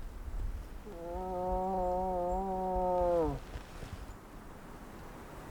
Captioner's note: moose call grunting